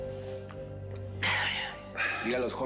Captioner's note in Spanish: todos exhalan